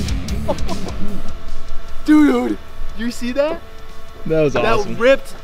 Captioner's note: laughs